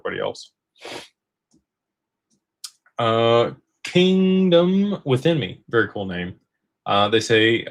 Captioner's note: snorts